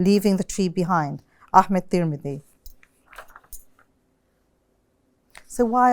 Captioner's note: non-english speech